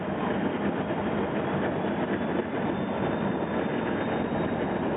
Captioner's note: engine continues rumbling